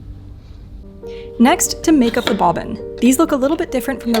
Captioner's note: finger taps; drawer scrapes